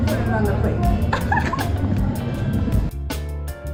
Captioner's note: laughs; rhythmic music